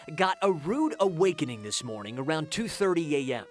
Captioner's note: siren